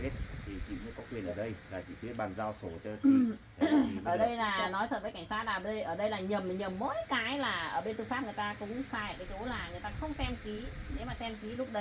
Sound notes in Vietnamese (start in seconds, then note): 3.0 hắng giọng